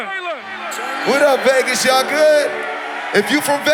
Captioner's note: crowd cheering